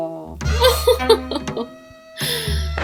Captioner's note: laughs